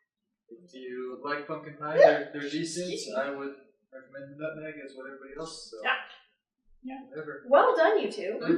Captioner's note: hiccup